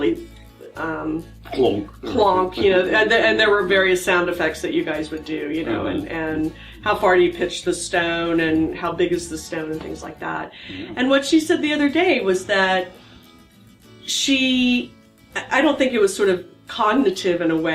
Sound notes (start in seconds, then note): 1.5 pat